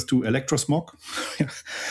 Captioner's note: laughs